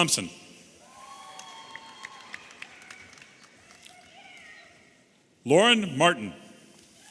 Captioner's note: audience applauding and cheering